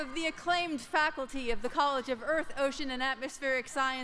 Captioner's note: applause